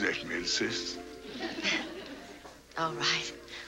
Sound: light laugh

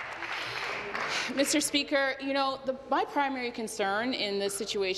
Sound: applause

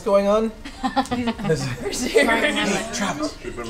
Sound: laughs

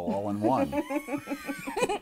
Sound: laughter

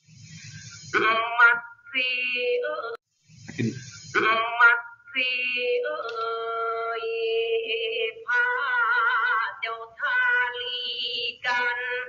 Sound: plays recorded recitation in Thai

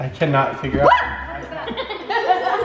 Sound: screaming

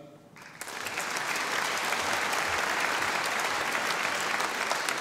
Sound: audience applauding

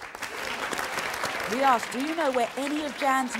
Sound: audience clapping

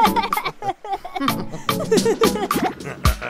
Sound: laughter

